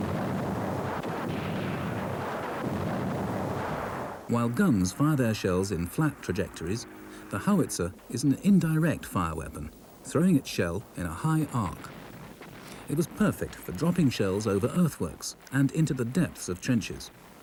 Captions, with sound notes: (shell booms) (shell blasts) (shell booms) While guns fire their shells in flat trajectories, the howitzer is an indirect-fire weapon, throwing its shell in a high arc. (shell booms) It was perfect for dropping shells over earthworks and into the depths of trenches,